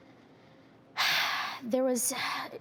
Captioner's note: exhales